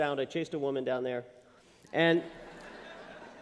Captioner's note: laughter